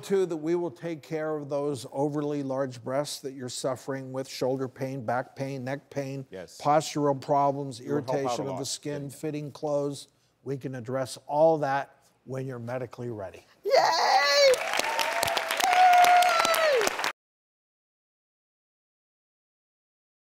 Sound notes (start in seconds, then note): 14.0 audience cheers